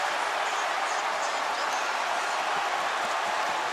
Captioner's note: cheering